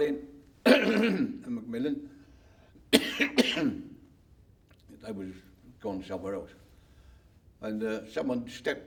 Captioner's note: coughs